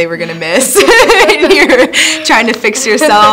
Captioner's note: both Laugh